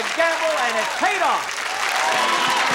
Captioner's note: applause and cheering; theme music playing